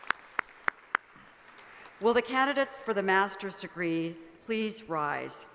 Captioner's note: applause